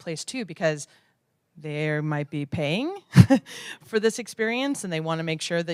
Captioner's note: laugh